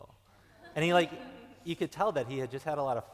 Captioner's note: laughing